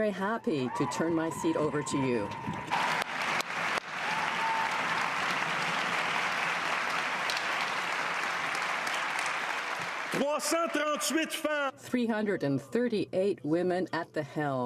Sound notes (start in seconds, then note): 5.4 cheers and applause